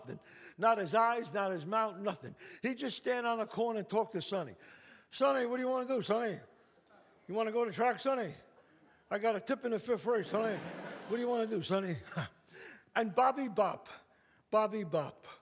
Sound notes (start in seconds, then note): 10.3 chuckles